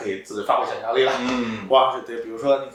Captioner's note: nonverbal grunt as interjection